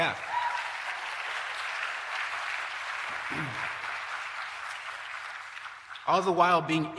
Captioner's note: applause